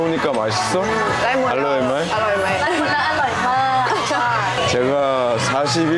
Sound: laughing

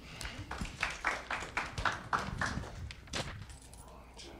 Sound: audience clapping

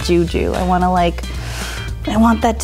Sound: inhales

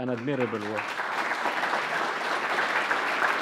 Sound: applause

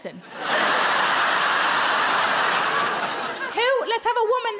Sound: crowd laugh

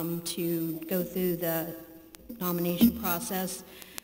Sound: none

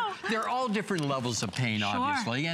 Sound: laughter

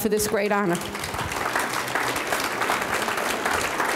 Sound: audience clapping

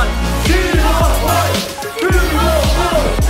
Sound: chanting

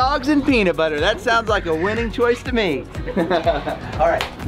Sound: laughs

